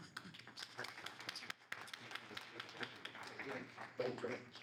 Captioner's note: audience applauds